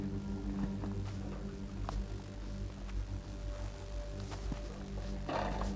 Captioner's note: electricity buzzing